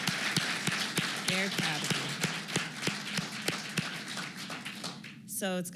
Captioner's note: applause